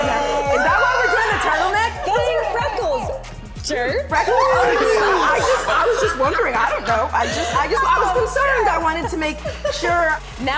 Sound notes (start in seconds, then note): 4.1 laughing